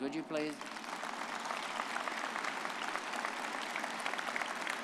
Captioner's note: all applauding